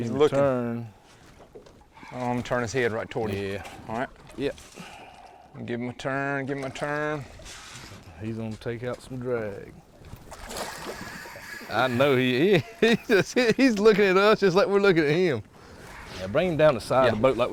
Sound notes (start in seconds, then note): 11.9 chuckling